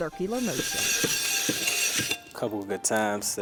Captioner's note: glass being scrubbed